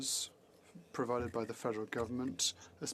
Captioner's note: speaking French